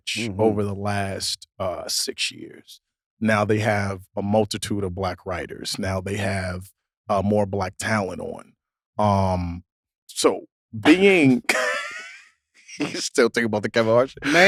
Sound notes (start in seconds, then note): 10.8 laughs; 13.7 both laugh